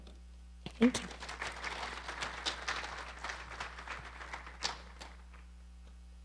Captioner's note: audience applauding